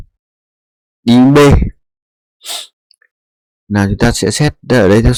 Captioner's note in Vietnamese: khịt mũi